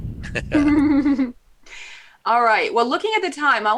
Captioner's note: laugh